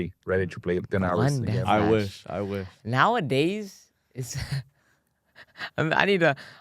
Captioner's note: laughs